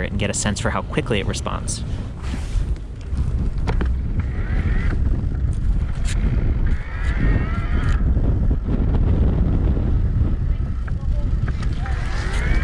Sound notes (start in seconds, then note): 4.7 wind blowing